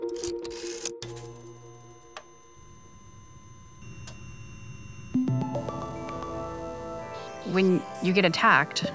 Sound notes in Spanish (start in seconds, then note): 1.0 zumbido de máquina; 5.2 música meditativa